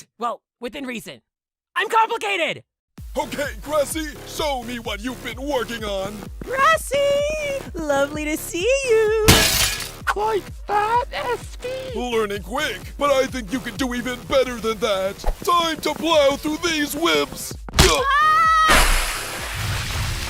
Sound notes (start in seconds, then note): 9.3 bottle shatters; 17.8 Barf Bag screams